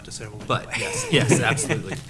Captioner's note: laughs